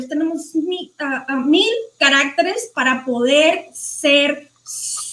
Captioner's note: speaking foreign language